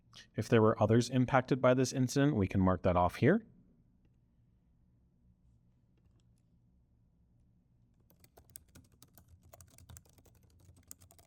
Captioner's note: sound of typing